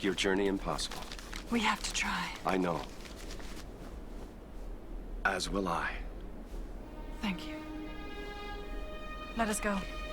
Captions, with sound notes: to make your journey impossible. (paper rustling) - We have to try. - I know, as will I. - Thank you. (somber orchestral music) Let us go.